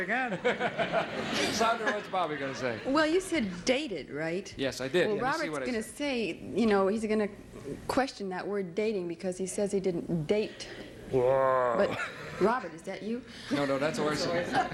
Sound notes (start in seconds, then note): 0.2 audience laughing; 11.0 groaning